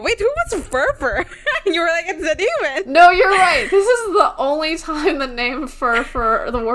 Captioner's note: laughs